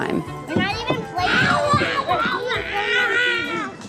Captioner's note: yells